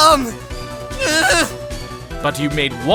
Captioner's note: groans